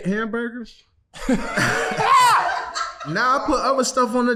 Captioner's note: team laughing